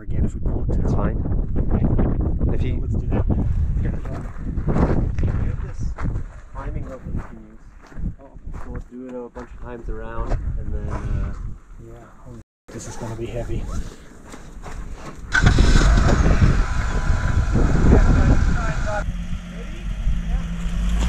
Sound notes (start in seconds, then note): 15.2 Jeep rumbling to a start; 20.8 vehicles revving